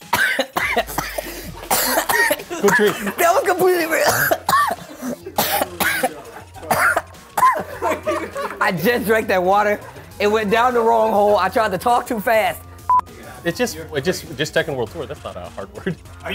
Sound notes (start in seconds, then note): 0.1 coughing; 4.2 coughing; 5.5 cough laughing; 12.8 beep